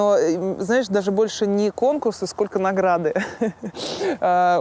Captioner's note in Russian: смеётся